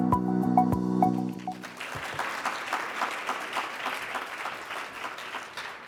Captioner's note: congregation clapping